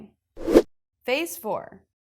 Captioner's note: graphic whooshes